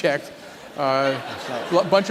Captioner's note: laughter